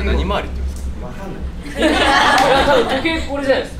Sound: students laugh

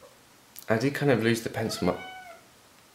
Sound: cat meows

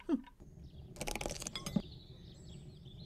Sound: egg cracks

